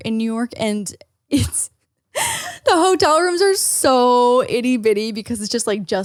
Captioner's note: laughs